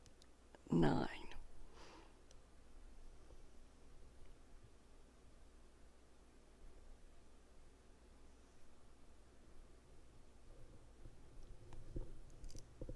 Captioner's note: silence